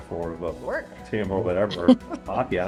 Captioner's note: laughs